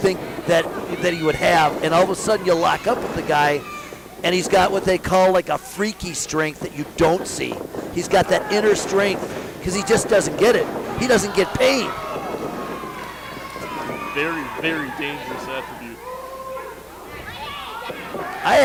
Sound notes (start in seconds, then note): 12.2 crowd shouts encouragement